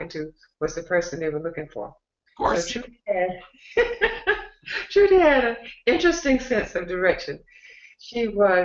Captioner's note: laughter